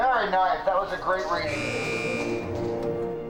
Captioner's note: buzzer